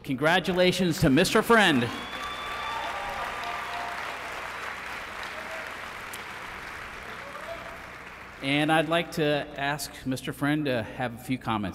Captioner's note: applause